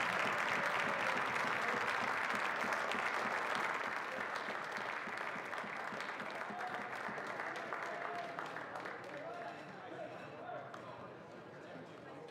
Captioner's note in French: applaudissements